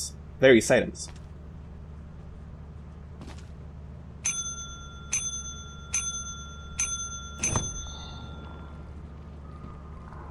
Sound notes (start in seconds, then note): 4.2 ring; 7.3 door Opens; 8.6 evil Wall Noises